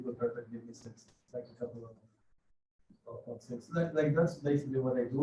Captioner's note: faintly speaks; faintly speaks